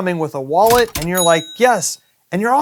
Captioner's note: cash register effect